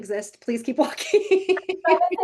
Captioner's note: laughing